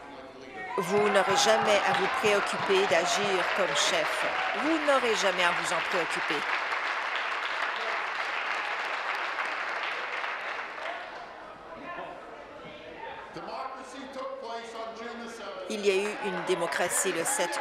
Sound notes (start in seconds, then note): 5.1 applause; 11.9 continued applause